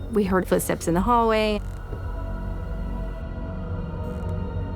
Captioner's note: light tapping